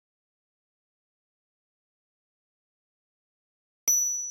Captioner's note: bell dings